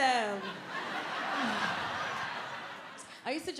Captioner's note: audience laughing